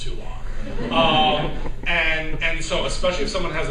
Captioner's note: laughter